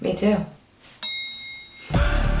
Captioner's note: elevator door dings